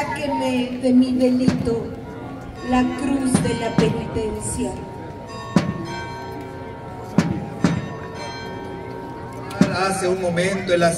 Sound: church bells

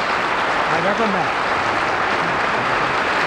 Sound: applause

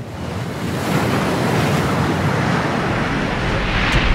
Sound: water splashing

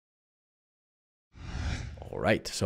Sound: whooshing

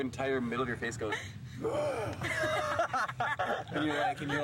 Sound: gasps

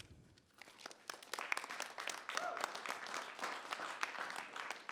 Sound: audience applauding

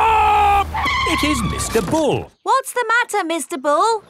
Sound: tires screeching

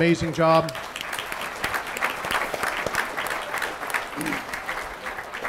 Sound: audience applauding

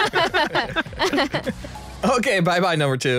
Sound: laughs

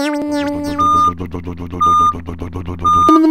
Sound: back up beeper

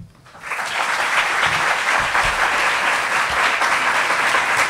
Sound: audience clapping

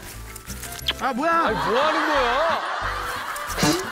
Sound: kisses

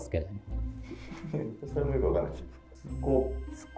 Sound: laughing

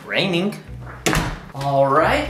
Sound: door slams

